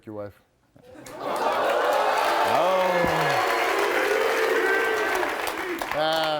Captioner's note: audience clapping and cheering